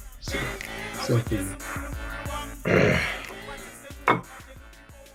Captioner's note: clears throat